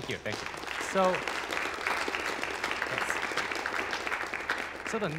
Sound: applause

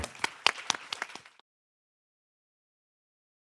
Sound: applause

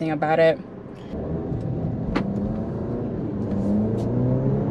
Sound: car accelerating

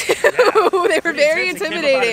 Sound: laughing

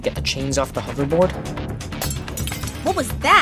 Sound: glass breaking

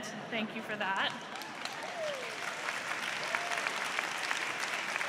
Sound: applause

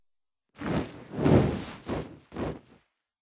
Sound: fire sound effect

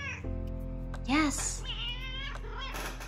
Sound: grumpy kitty sounds

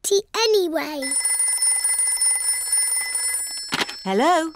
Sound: phone rings

